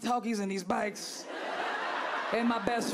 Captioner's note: crowd laughing